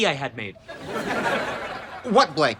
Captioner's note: laughs